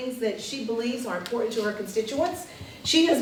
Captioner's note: none